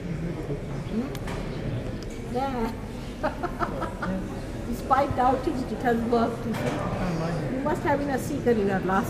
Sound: shri mataji laughs

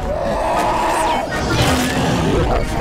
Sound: roar; crunch; dramatic music

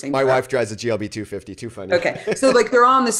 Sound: laughs

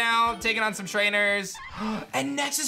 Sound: gasps

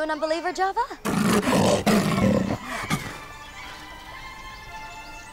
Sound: lion roaring loudly

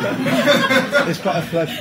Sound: is dying of laughter

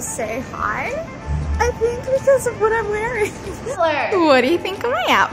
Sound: giggles

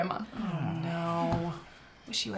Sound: dejected sighs

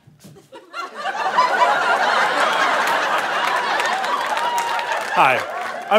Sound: audience laughter

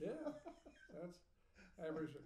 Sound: laughing

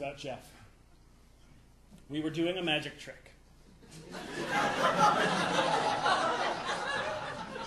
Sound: audience laughing

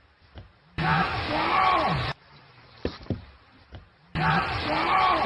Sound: yell vocalization

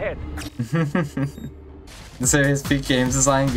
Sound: giggles

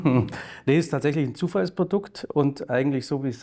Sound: chuckles

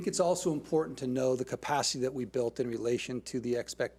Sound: none

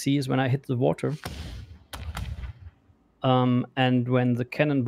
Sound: staggered booming sounds

